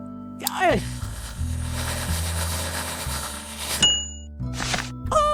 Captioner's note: cranking